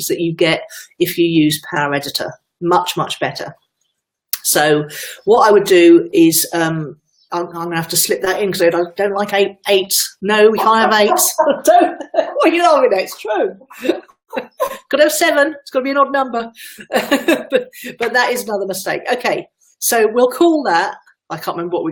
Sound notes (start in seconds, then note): 13.4 laughter from in background